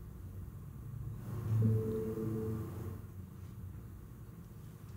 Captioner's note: Vision Pro bleeping